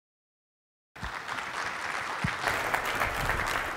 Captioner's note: applause